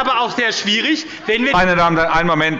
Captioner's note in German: Anhaltende Unruhe